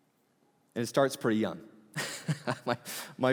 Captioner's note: laughing